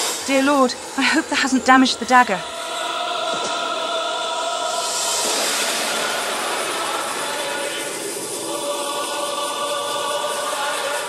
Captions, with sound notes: Dear Lord, I hope that hasn't damaged the dagger! *Agonizing chant* *Gongs* *Agonizing chant*